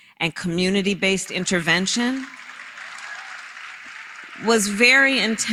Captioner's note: applause